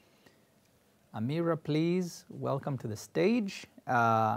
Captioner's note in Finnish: switches to English